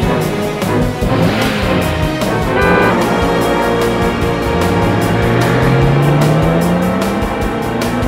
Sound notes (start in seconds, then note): 2.3 car honking